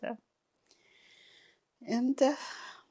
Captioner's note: pauses 6 seconds